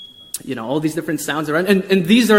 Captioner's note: beeping